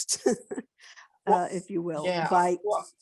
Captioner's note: chuckles